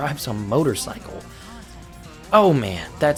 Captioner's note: breathes In